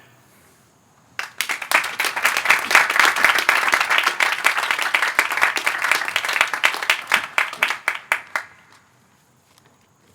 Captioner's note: applause